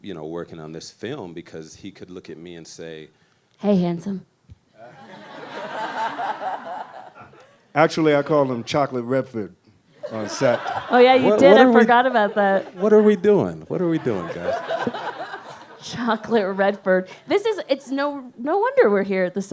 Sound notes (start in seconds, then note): 4.8 laughs; 15.3 audience laughs